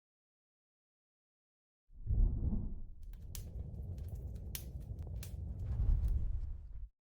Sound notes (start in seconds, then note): 2.9 fire blazing, crackling